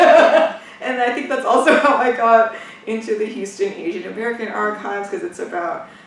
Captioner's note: laughs